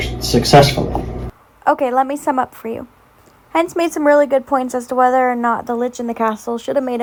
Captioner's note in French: voix off